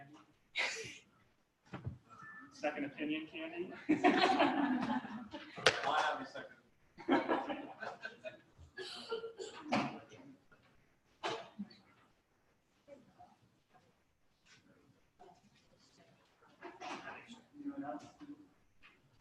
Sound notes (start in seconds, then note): 3.7 laughter